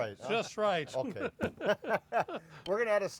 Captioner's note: laughs